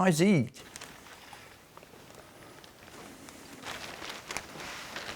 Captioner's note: paper rustling